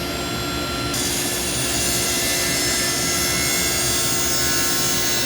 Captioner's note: sawing through wood